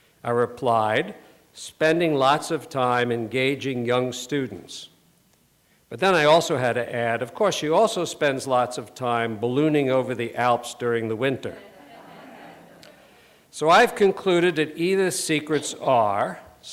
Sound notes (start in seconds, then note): 11.5 laughter